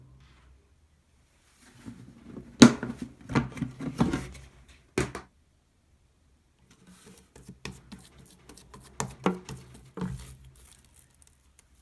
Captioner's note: folding